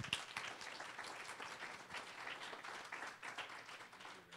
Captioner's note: applause